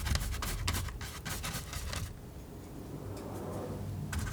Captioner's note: scratching